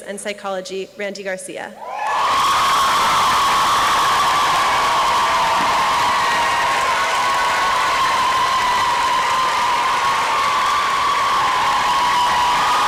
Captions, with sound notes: and Psychology, Randi Garcia. (applause and cheering)